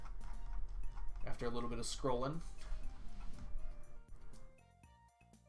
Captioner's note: chuckles